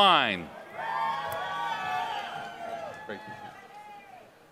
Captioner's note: applause